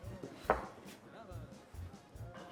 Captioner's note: Zeke stomping